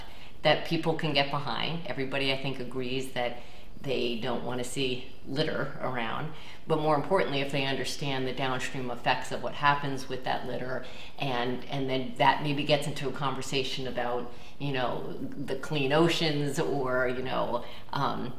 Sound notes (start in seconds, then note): none